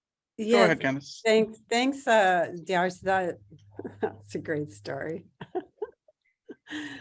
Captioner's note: chuckles